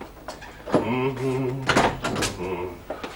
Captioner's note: hums